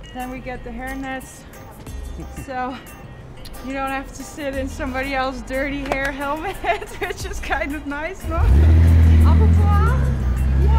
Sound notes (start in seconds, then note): 6.2 laughs